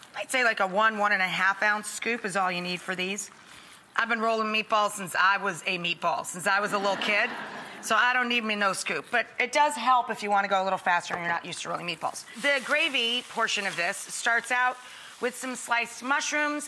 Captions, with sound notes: I'd say like a one, one-and-a-half-ounce scoop is all you need for these. I've been rolling meatballs since I was a meatball, since I was a little kid. (audience laughs) So, I don't need me no scoop, but it does help if you wanna go a little faster and you're not used to rolling meatballs. The gravy portion of this starts out with some sliced mushrooms,